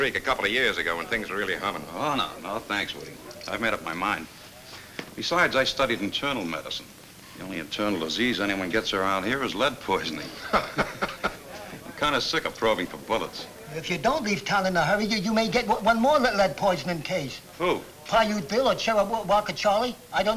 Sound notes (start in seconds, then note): 10.2 chuckles